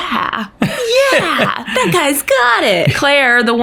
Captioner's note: laughs